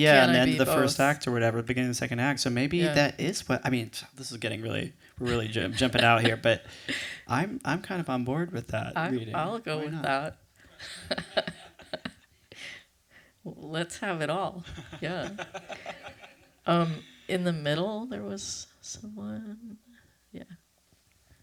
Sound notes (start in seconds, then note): 11.8 laughs; 14.6 laughter